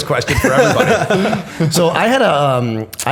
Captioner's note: chuckle